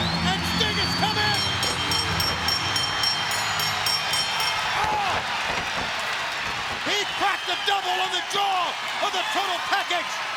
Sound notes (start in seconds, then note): 0.0 crowd cheering; 0.7 bell ringing; 1.1 crowd cheering